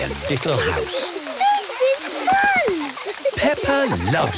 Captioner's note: laughter